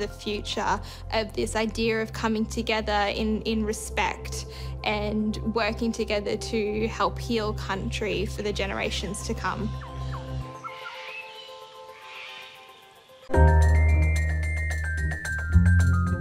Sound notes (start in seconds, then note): 8.9 birds and animals twitter and call